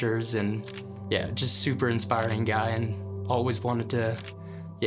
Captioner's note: camera shuttering; camera shuttering